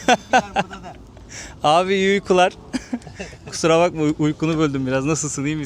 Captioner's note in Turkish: kahkaha